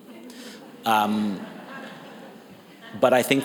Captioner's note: audience laughs